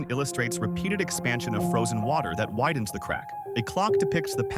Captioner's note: gentle wind blowing